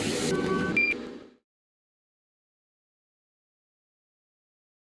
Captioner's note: machine squeaks